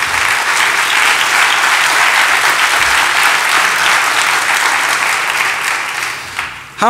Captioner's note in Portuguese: Aplausos